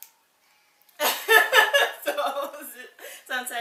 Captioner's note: laughing